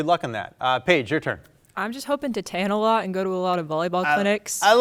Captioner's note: faintly speaking